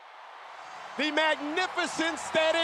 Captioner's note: crowd cheers